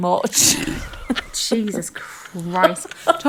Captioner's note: laughing